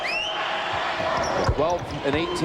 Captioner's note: whistle